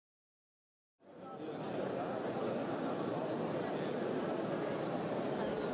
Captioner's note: sounds of the audience at a packed cabaret